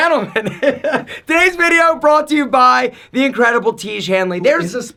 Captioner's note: laughs